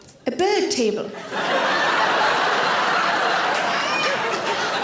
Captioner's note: audience laughing